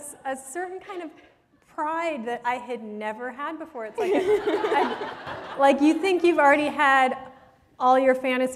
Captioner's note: laughter